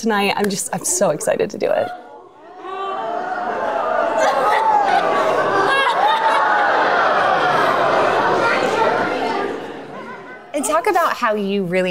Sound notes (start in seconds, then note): 1.8 crowd cheering